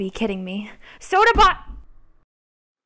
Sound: yelling

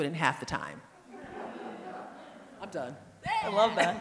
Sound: audience laughing

